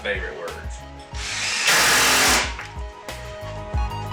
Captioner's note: drill whirring; instrumental music